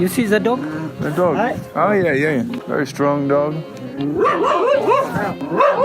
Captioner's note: dog Barking